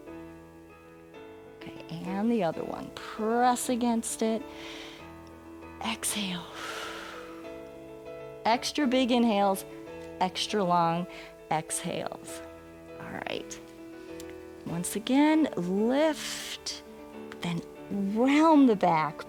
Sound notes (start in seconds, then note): 4.5 inhales; 7.0 exhales